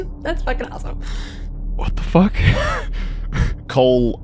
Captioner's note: laughs